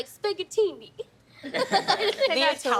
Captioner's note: laughing